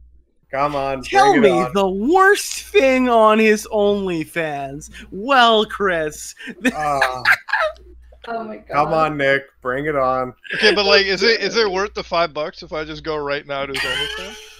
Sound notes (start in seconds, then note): 5.0 imitating Slug; 6.2 laughs